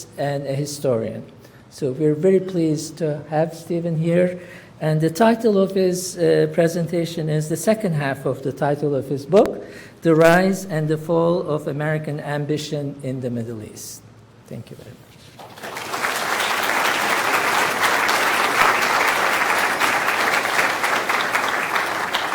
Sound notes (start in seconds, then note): 15.3 applause